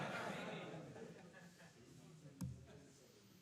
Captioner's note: audience laughs